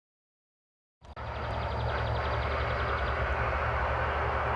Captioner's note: birds chirping